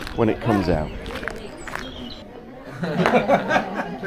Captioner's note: man laughing